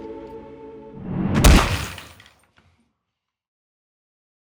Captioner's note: sound of blow to the head